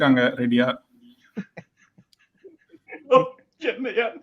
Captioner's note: laughs